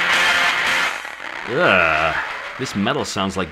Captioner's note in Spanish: quejidos